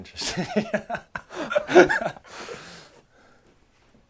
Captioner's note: laughs